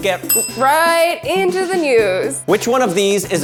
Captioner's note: bell rings